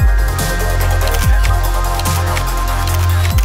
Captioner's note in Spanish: Disparos de cámara fotográfica